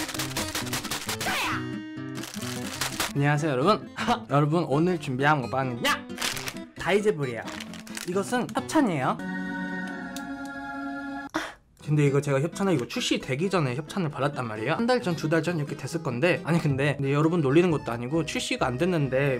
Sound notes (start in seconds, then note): 2.2 smack, smack